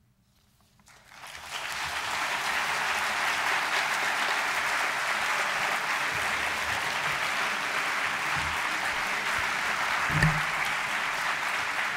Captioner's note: audience applause